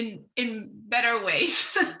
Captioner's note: laughing